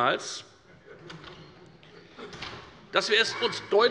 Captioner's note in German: Heiterkeit